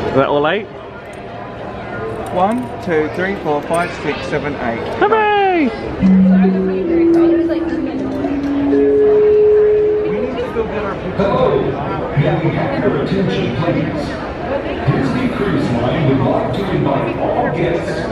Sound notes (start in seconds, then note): 6.3 passengers chatter; 8.6 tone sounding